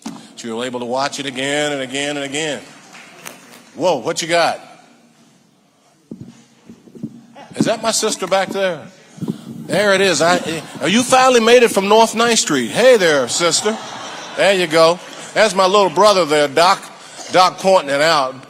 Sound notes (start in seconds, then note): 12.2 audience laughing